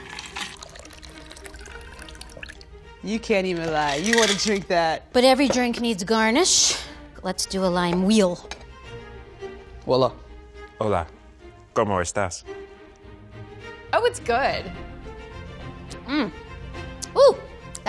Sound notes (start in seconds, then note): 0.0 liquid trickling; 0.2 quirky orchestral music; 8.4 quirky orchestral music; 10.8 speaking in foreign language; 12.5 quirky orchestral music